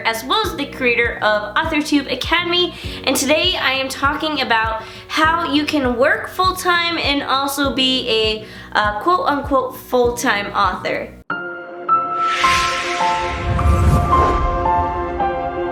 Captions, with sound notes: as well as the creator of AuthorTube Academy and today, I am talking about how you can work full time and also be a quote, unquote full time author. (pleasant music) (gentle swoosh)